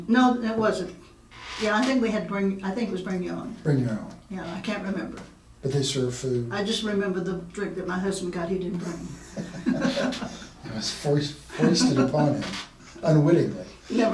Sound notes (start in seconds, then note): 8.8 laughing